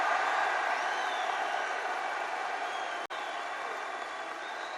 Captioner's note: applause